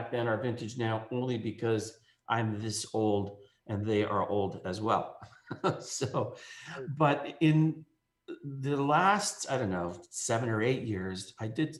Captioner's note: laughs